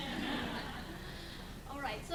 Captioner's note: crowd laughing drowns out speaker